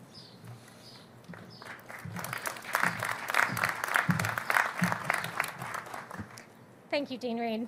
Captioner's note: applause